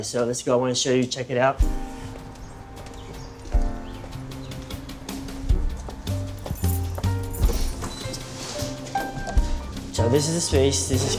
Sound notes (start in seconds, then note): 1.6 birds chirping; 5.2 smooth music